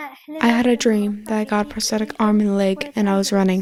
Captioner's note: through translator